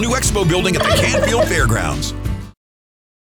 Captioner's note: turkey gobble